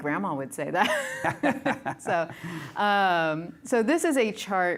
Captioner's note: laughter